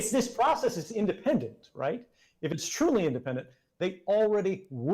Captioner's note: none